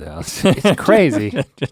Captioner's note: both laughing